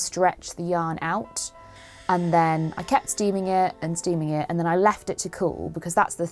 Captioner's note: steamer noises